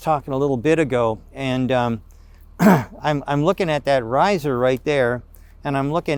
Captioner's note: clears throat